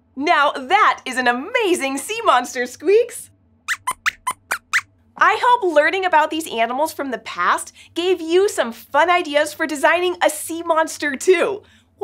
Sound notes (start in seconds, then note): 3.7 squeaks squeaks